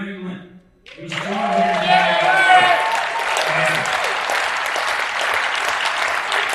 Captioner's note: attendees applauding and cheering